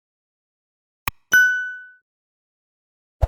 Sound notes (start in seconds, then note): 1.2 bell dinging